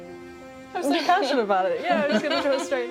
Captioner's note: laughing